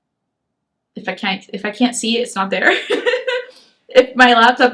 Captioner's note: laughs